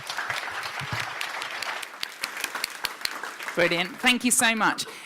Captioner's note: audience claps